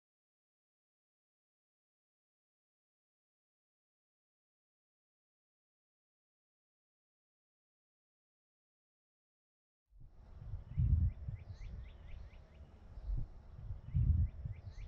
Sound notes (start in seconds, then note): 10.2 birds chirping